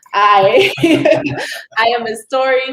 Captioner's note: laughs